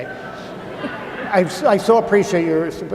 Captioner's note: audience laughing